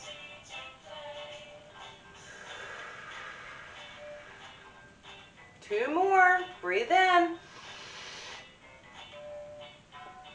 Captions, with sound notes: (breathing out) Two more, breathe in. (breathing in)